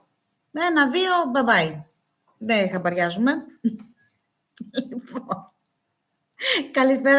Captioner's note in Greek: γέλια